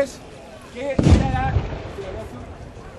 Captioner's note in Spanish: el sonido de un cañón tapa el sonido